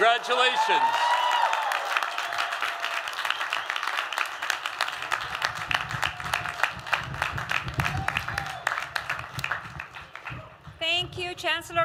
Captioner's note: applause